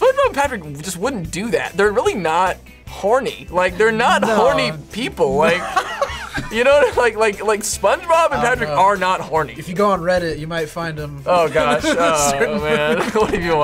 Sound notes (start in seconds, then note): 3.8 laughs; 11.5 laughs